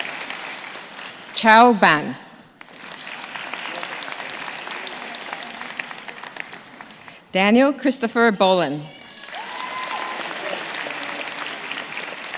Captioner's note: names being called